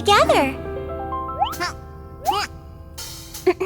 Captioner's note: grunting; clears throat